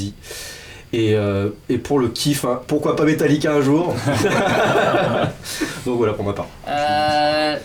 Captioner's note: laughs